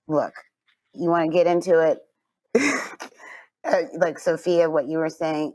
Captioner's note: chuckles